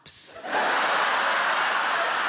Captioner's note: audience laughs